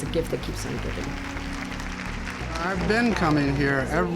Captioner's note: audience clapping